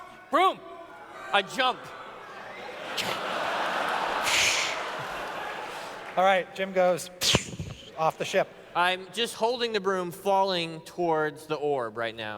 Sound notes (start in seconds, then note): 2.6 laughter; 7.4 psshoo